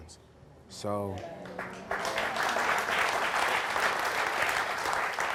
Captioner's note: audience applauds